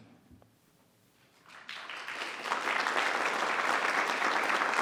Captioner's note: applause